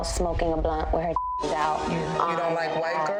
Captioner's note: beeps; dramatic music